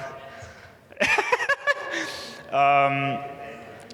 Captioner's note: laughing